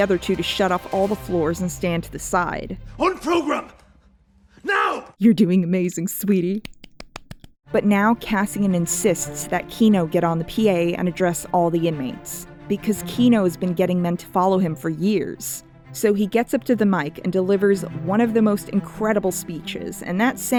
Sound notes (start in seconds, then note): 6.6 clap clap